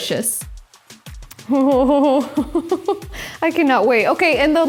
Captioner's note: gleefully laughs